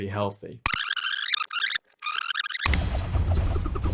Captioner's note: VHS rewind sound effect; suspenseful music